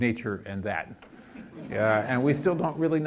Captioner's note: audience laughs